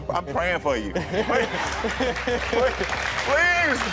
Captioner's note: all laugh